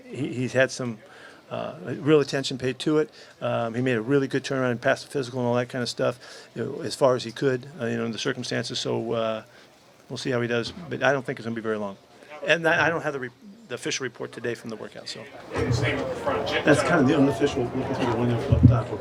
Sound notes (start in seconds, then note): 15.3 murmurs